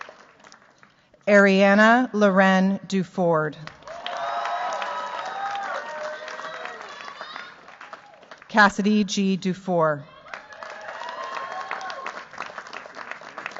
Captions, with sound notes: Arianna Lauren Duford. [CHEERS, APPLAUSE] Cassidy G. Dufour. [CHEERS, APPLAUSE]